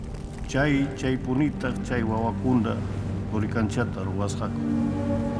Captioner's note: speaking Quechua